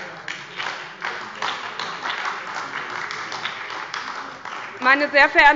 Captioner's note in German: Beifall bei der SPD